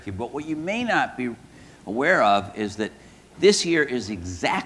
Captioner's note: none